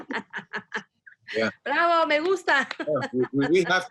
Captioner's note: speaking spanish